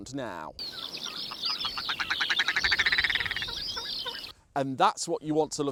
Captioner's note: grouse sound